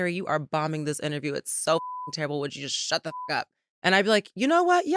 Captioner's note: beep